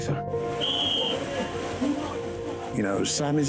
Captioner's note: whistle blows